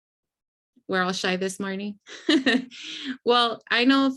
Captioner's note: laughs